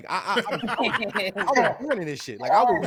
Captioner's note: laughter